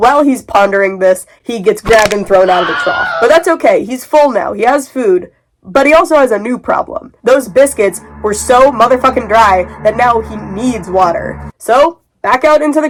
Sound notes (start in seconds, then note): 1.9 bone cracking sounds; 2.4 Wilhelm scream